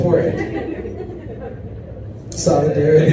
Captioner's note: audience chuckles